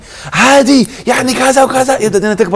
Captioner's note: shouting!